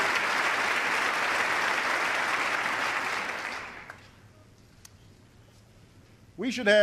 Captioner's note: applause